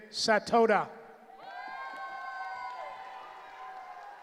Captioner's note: cheering